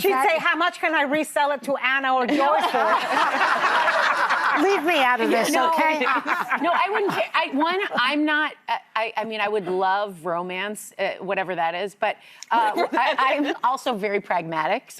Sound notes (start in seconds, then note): 3.9 audience laughing